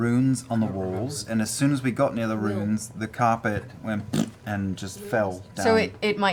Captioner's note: raspberry noise